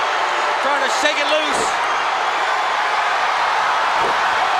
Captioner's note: crowd shout